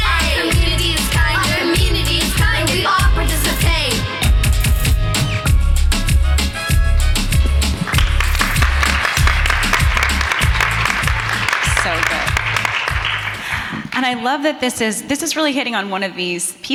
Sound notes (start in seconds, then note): 4.0 upbeat music; 7.6 audience applauding